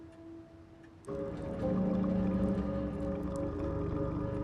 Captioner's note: pipes groan